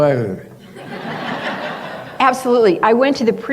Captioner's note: laughter